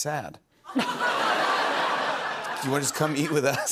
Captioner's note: laughter